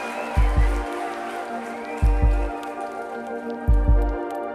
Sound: audience cheering

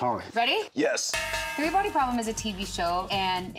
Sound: cowbell clangs

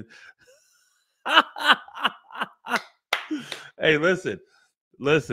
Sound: laughs

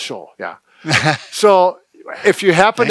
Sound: laughing

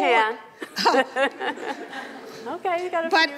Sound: laughs

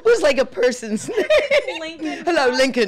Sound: laughing

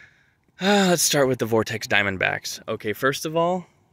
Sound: sigh of unpreparedness

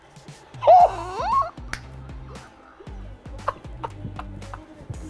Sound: laughing

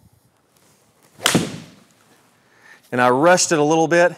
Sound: golf ball smacks; golf club whacks

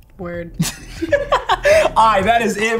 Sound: both laughing

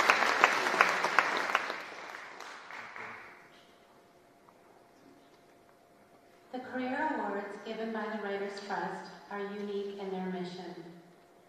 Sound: applause

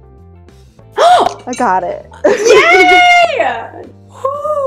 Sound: gasps

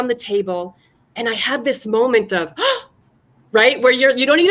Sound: gasp

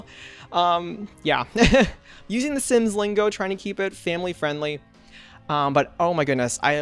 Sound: laughs

